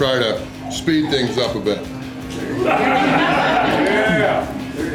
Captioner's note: crowd noises